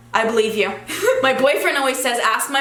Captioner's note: giggles